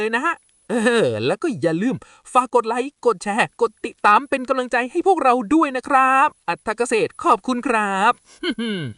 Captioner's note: haha